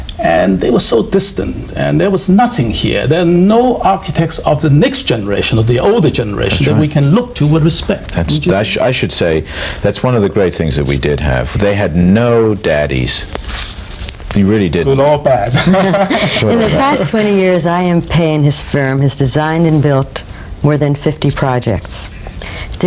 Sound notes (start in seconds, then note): 15.4 laughing